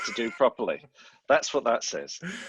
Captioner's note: laughs